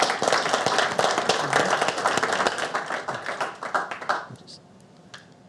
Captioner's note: audience clapping